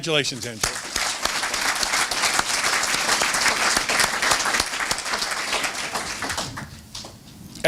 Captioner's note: applause